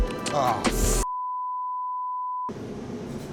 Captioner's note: beep